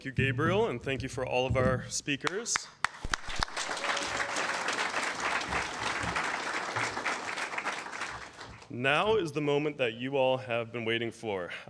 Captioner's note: applause